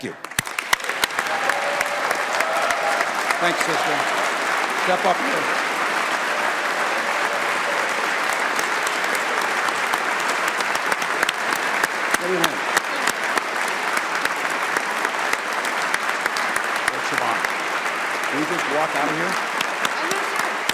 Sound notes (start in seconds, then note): 6.4 applause